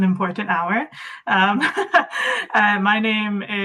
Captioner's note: laughs